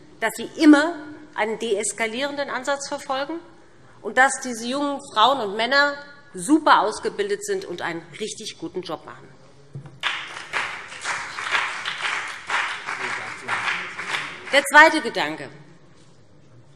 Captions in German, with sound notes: dass sie immer einen deeskalierenden Ansatz verfolgt und dass diese jungen Frauen und Männer super ausgebildet sind sowie einen richtig guten Job machen. [Beifall BÜNDNIS 90/DIE GRÜNEN und CDU] Zum zweiten Gedanken.